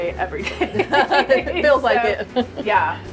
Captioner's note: laughing